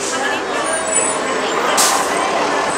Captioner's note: squeaking Bus Brakes; air-Brake Blow off Noise; diesel Motor Idling off Camera